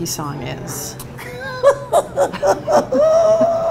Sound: laughing

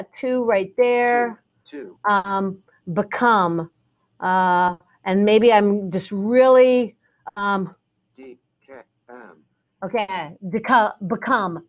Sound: computer reads Dkm

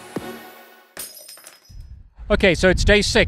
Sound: glass breaking

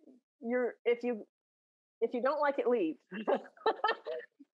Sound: laughs

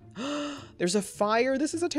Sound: gasps

